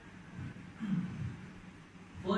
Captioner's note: clearing is throat